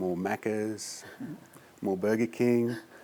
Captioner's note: laughs